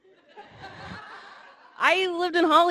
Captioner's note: audience laughing